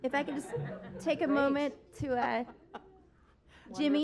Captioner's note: laughter